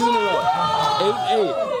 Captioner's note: cheering